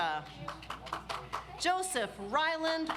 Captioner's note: audience applauds